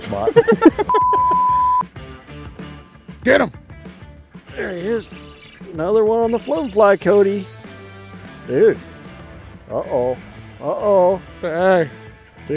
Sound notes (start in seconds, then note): 0.1 laughs; 0.8 beep